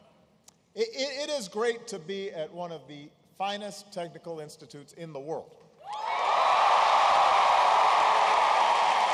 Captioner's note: applause